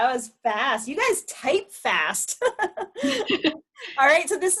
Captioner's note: laughs